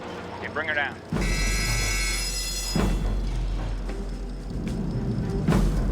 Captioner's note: bell rings